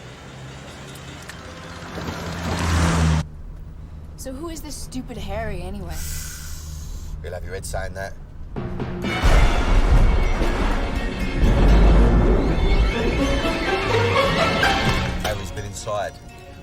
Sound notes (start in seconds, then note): 6.0 sighs; 9.1 thunder rumbling